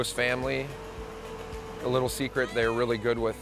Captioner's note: machine whirring